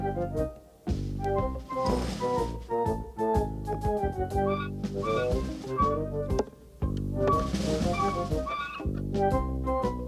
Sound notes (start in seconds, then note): 4.4 squeaking